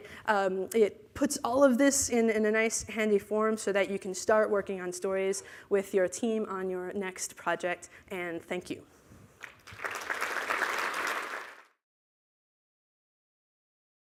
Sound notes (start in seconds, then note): 9.4 applause